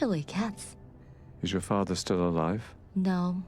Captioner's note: voiceover